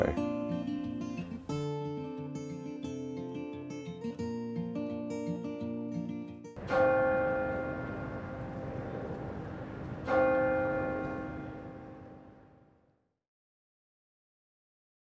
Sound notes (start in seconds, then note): 0.0 gentle music; 6.6 bell chiming